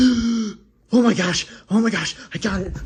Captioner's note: gasps